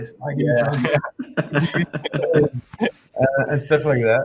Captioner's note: all chuckling